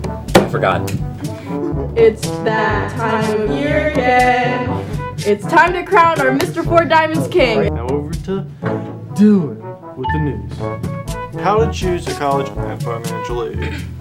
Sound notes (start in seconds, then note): 4.5 reverb